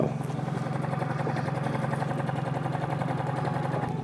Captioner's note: boat motor hums